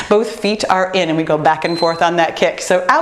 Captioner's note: timer beeps